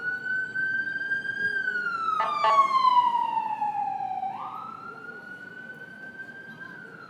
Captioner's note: siren passes